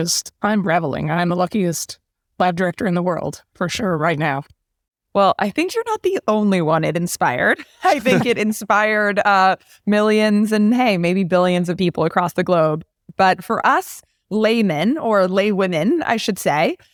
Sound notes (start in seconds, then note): 7.6 laugh